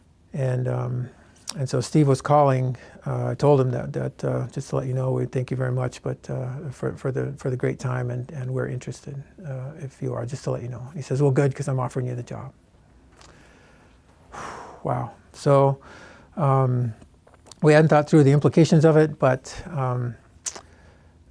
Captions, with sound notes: And so Steve was calling. I told him that just to let you know we thank you very much for the great time and we're interested if you are, just to let you know. He says, "Well good because I'm offering you the job." (exhales) Wow, so we hadn't thought through the implications of it but...